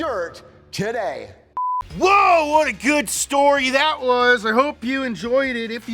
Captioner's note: beep